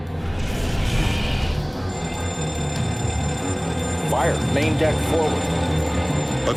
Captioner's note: alarm blaring